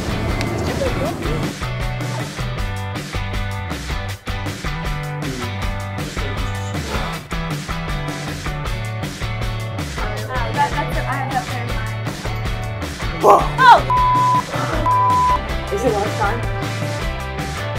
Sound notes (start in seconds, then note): 1.3 cheery upbeat music; 5.1 blowing